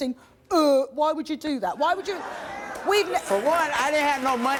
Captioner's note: audience groaning and applauding